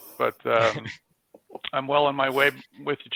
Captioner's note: group laughs